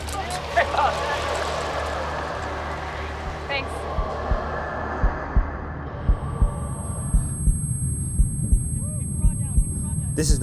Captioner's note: heart beating